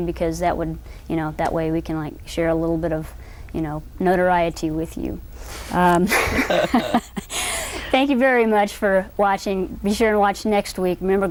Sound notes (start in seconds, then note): 6.1 laughter